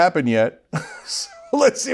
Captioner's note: laugh